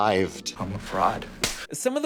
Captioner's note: pixelated slap